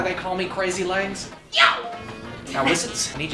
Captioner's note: yells enthusiastically